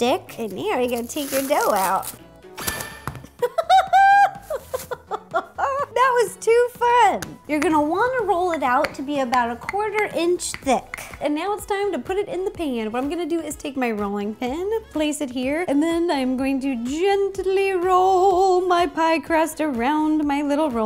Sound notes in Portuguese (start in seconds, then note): 3.4 Risos Risos R I S O S